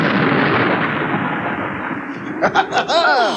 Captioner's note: sound Of Thunder